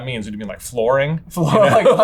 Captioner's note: laughs